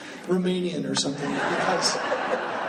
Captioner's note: laughing